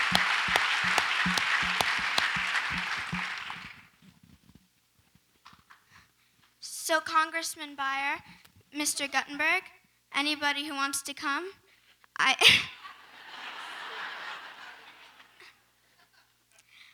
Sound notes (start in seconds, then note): 12.5 laughs; 13.0 audience laughs